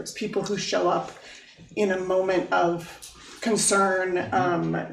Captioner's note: none